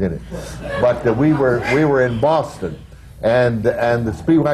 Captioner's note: laughter